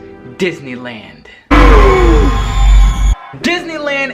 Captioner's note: spooky screeching